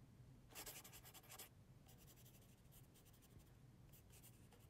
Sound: scribbling

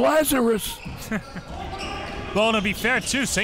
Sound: laughs

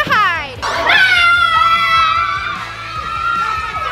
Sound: players screaming

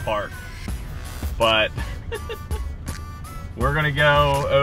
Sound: wife laughing

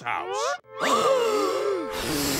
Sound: gasping

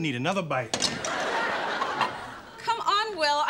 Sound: audience laughing

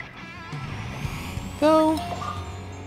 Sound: high pitched whirring

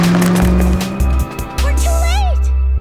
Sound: engine accelerating

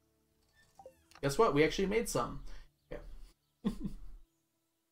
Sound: chuckles

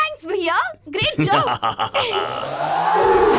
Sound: evil laugh

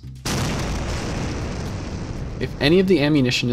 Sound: loud explosion

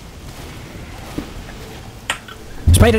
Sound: faint decloaking sound

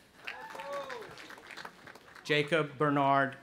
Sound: cheering

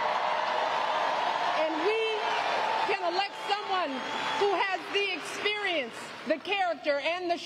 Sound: applause

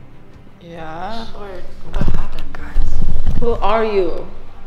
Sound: indistinct chatters

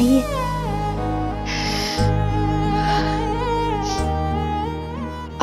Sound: sniffling

